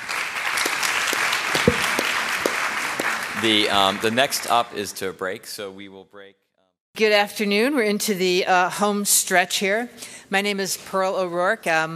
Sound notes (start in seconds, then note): 1.8 applause